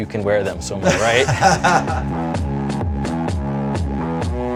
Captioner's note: laughing